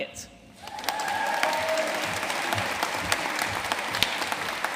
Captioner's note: audience cheering and applauding